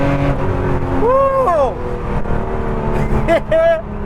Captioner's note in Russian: издает звуки счастья